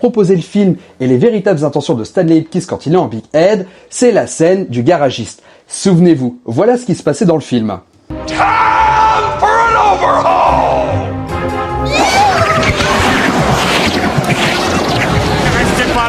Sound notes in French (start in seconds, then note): 11.8 cri; 11.8 gémissement